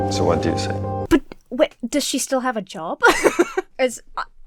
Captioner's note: Emma laughs